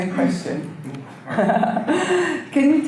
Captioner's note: laughs